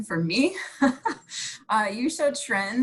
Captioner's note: laughing